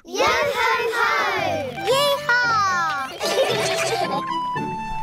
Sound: all giggle

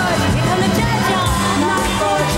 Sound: laughs

